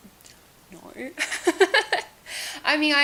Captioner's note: laughs